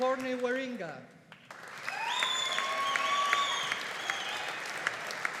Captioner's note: audience applauding